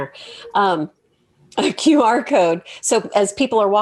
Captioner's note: laughs